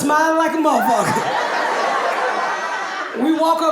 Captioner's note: audience laughing